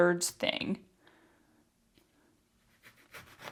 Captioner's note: sawing sounds